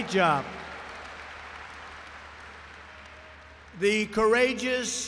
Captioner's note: applause